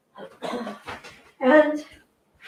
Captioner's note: clearing throat